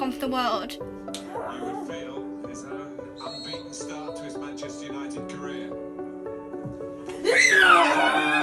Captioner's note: sound of televised football match; cheers